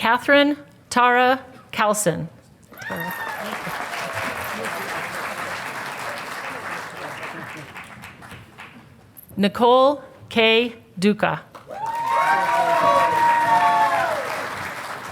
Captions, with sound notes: Catherine Tara Calcine. (Audience applauding) Nicole K Duca. (Audience applauding)